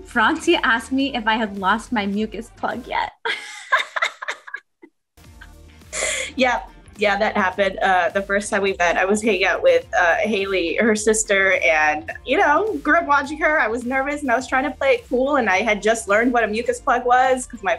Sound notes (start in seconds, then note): 3.2 laughing